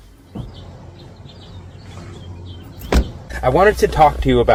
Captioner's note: birds chirping